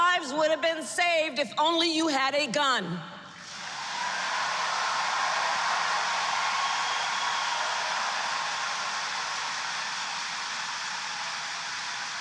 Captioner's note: applause